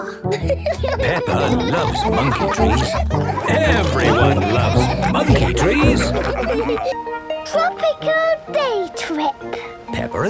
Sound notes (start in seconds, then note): 0.0 laughing; 6.1 all laughing